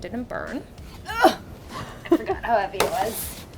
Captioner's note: grunting